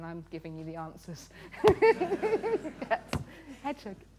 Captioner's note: laughter